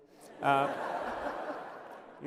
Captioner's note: laughter